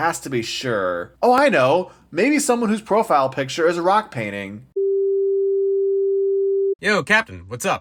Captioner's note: dial tone